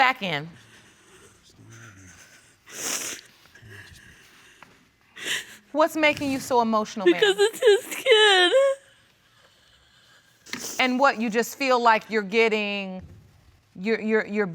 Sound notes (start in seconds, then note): 1.6 sobbing; 3.2 sniffles